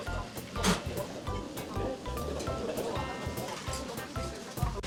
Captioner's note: laughs